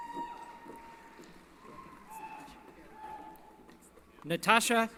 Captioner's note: cheering